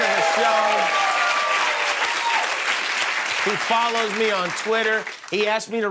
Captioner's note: cheers and applause